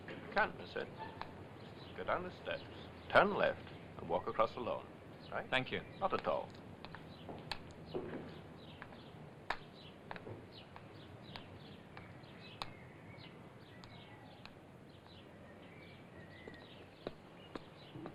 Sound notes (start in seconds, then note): 6.8 birds chirping; 7.9 footsteps